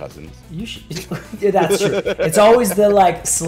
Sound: laugh

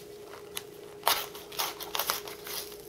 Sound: tearing sounds

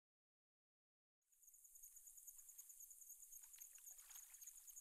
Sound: water and nature sounds throughout the intro

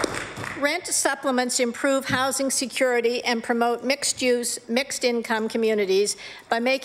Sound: applause

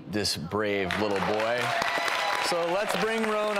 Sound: applause

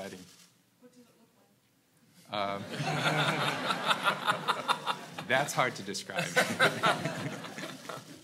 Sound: laugh

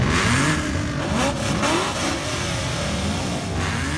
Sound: car engines revving

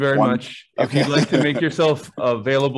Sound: laughing

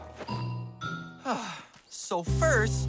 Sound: sighs

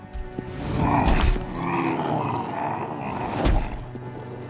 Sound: growling

